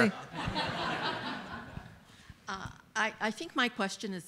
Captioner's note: audience laughs